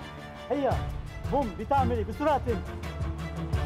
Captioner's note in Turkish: Arapça Konuşuyor